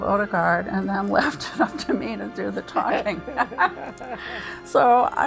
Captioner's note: laughs